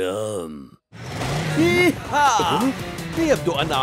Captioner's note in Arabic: صوت محركات في الحظيرة